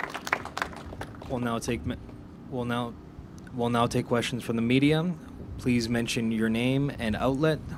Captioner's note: applause